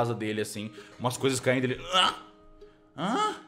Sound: moaning

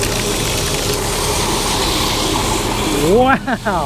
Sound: hose gushing water

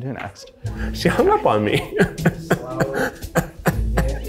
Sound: laughs

